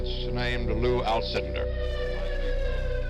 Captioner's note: siren wailing